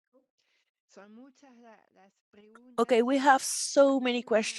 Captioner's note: speaking in Spanish